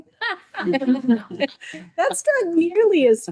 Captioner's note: all laughing